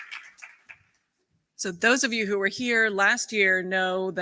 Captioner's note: applause